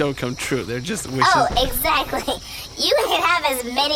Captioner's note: laughing